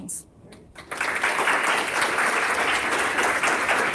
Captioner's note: applause